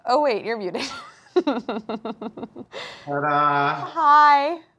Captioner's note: laughing